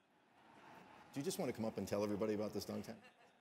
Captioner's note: laugh